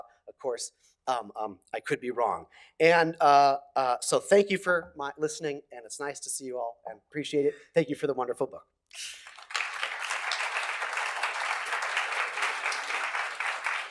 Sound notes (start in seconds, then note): 9.2 applause